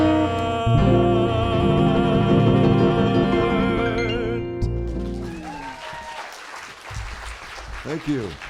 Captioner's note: applause